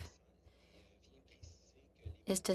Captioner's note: speaking French